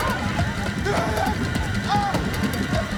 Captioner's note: screaming